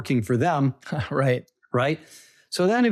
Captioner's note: laughing